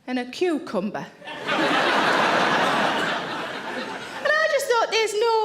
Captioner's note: audience laughing